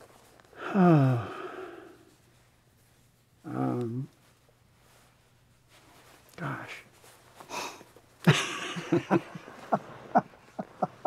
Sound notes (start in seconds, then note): 0.5 sighs; 8.2 both laughing